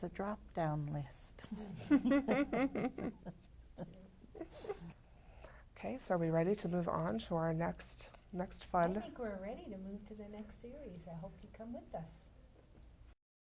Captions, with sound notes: drop-down list. (Laughter) OK, so are we ready to move on to our next, next fun ... I think we're ready to move to the next series. I hope you come with us.